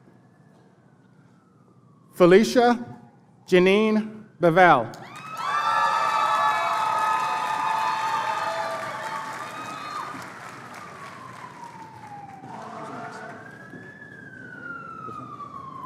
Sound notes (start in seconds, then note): 11.0 siren wailing